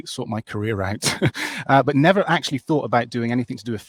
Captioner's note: chuckles